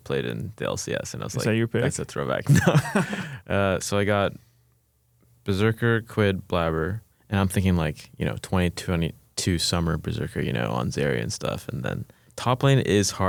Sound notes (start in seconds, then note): 2.4 laughs